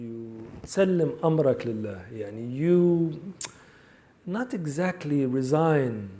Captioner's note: speaks in Arabic